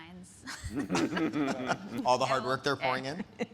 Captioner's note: speakers laughing